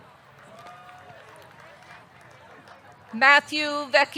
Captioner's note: audience clapping; audience cheering